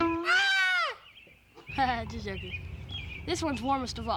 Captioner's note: laughs